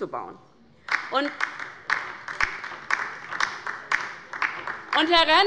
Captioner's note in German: Beifall bei der LINKEN